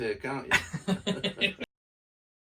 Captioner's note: laugher